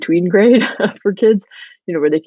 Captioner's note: laughs